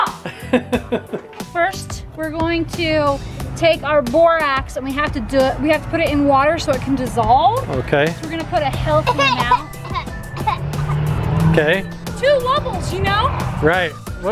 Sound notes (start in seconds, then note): 0.0 laughs; 8.8 coughing